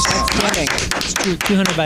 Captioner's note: applause